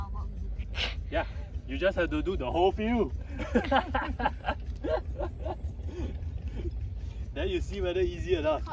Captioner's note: laughter